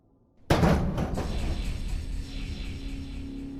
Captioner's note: clanging